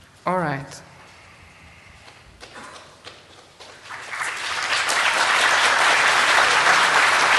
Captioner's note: applause